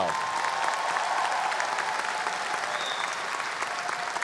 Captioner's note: audience applause